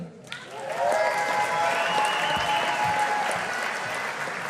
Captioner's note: audience applauding